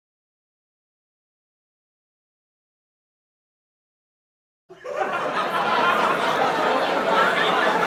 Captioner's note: mumbling sounds from people laughing & chatting